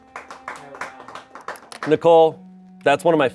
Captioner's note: crew clapping